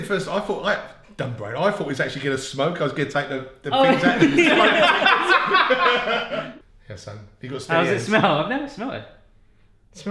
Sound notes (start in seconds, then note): 3.8 all laugh